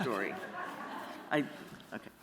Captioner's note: laughter